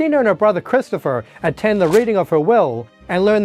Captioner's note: page turning